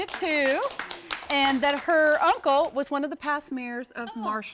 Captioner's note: �applause�